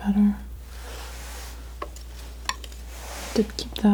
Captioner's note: scratching